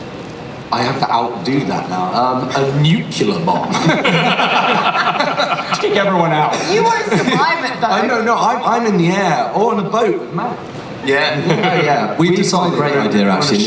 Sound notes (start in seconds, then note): 3.7 all laugh